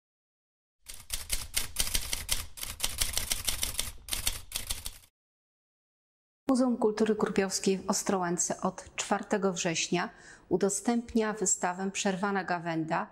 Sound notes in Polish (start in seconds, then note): 0.8 Dźwięk maszyny do pisania